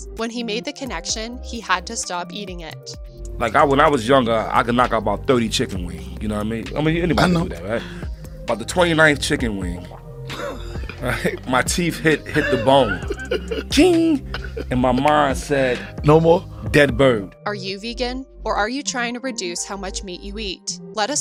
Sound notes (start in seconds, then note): 10.3 men laughing